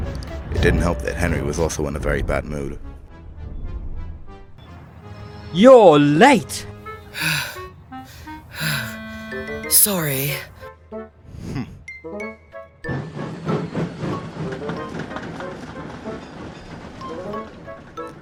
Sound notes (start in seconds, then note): 8.5 panting